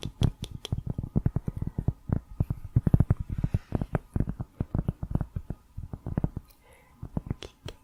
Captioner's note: tapping on cork